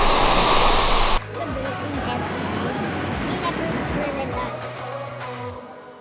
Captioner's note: speaking in low tones